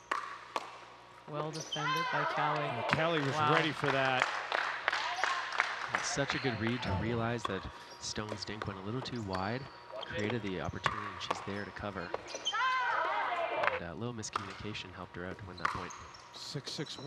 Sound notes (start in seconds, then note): 4.6 audience clapping